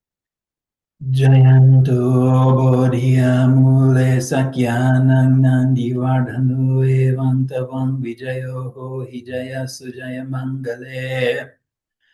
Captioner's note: chanting in Pali